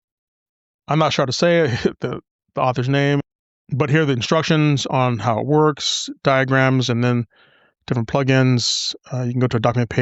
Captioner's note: chuckles